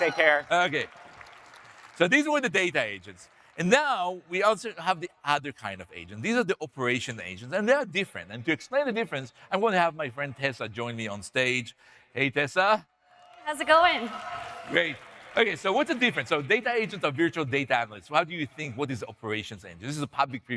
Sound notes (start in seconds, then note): 13.2 audience cheering